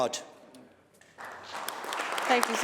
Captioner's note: applause